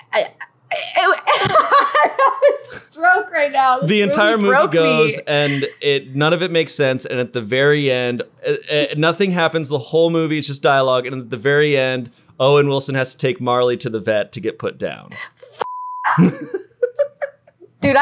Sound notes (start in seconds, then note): 0.8 laughing; 15.6 beep; 16.1 laughing